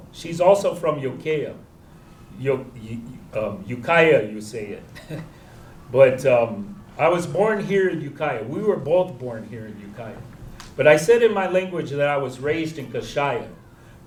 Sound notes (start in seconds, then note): 4.8 chuckles